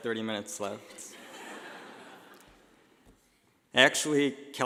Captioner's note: laughing